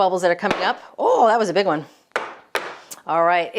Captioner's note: pan thumps